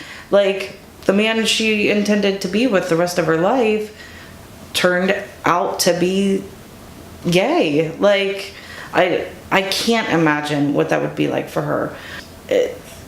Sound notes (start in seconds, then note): none